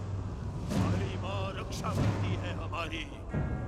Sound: speaking hindi

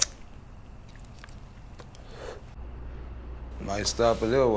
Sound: insects chirping

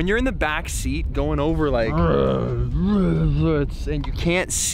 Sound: mimics truck sound

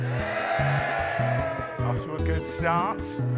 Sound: cheering

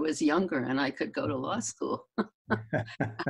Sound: laughs

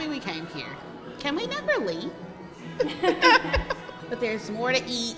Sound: laughs

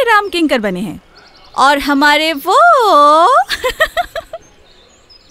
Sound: laughs

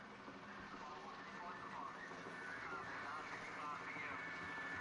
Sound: helicopter running; voice on police radio

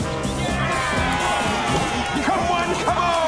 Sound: cheering

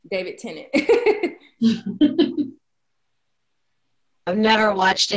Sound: belly laughing

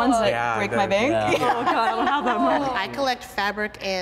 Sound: all talking and laughing

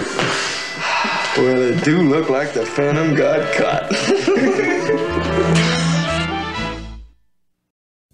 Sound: more laughing

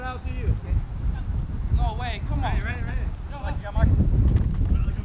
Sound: players talking and yelling

